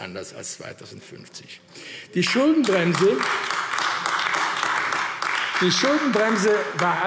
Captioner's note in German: Beifall AfD